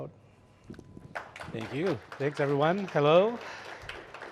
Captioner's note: applause